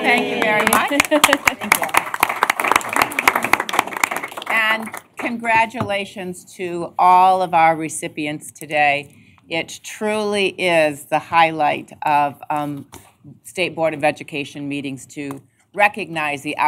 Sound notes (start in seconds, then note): 0.0 applause